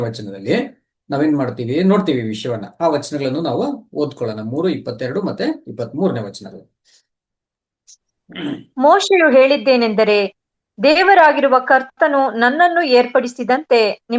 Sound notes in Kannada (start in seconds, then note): 8.3 ಗಂಟಲು ಸರಿಮಾಡಿಕೊಳ್ಳುವಿಕೆ